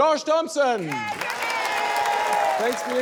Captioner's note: cheering, applause